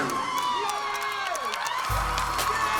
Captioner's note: cheers and applause